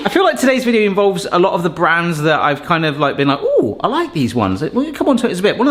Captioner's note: none